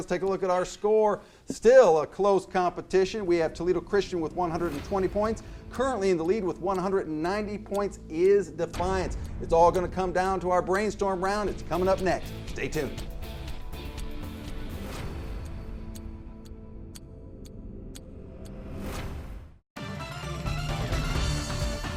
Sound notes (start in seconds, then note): 12.1 clock ticking; 17.3 electric music